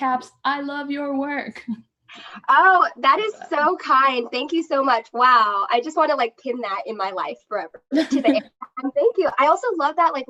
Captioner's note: laughter